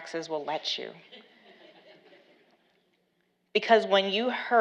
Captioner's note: laughs